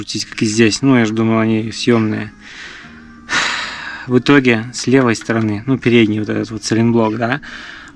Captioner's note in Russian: тяжело вздыхает; вздыхает